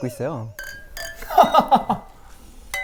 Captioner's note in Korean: 맑고 청아한 건배 소리